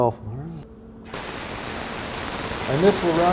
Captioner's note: static sound from cleaner